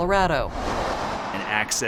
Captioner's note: sounds of cars driving